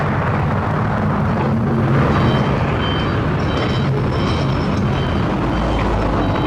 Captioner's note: traffic Rumble